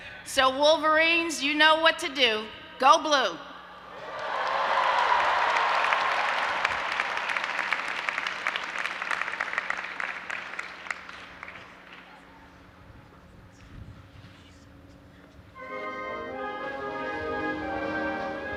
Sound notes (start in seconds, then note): 4.0 audience applauding and cheering